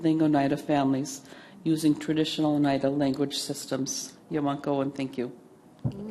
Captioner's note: native American language; native American language